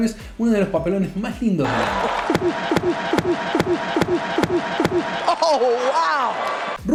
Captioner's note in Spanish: Risas